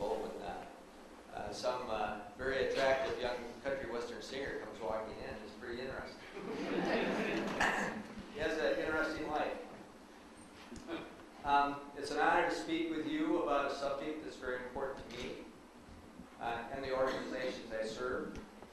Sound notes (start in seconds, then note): 6.3 audience laughs; 10.8 man laughs